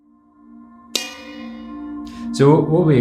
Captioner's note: solemn music; bell dings